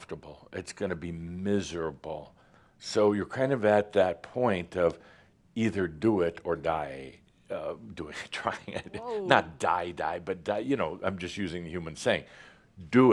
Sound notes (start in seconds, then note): 8.6 chuckles